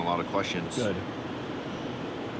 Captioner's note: none